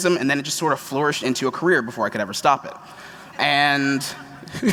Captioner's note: laughter